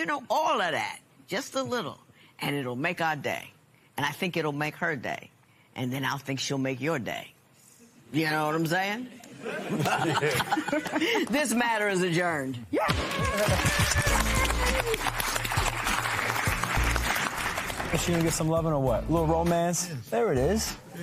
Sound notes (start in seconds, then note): 9.4 laughing; 15.1 applause